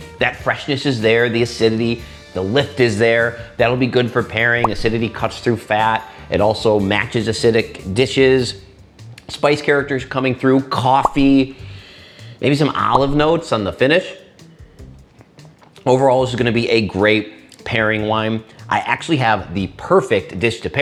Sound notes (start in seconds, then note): 11.6 sniffing